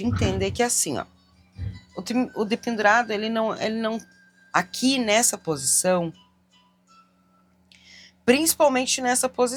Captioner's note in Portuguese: limpando a garganta